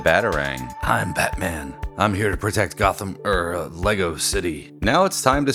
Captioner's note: Deep Batman Voice